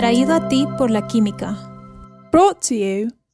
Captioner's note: gentle upbeat music; announcer speaks in foreign language